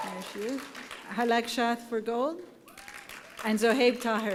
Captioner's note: applause